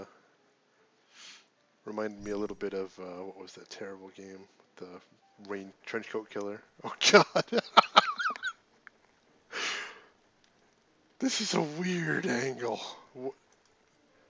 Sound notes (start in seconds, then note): 7.1 laughs